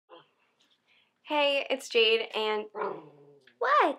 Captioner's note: dog growling